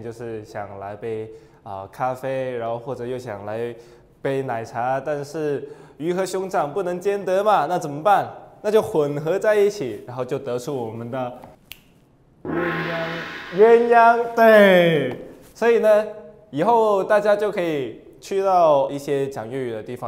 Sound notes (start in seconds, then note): 11.4 click!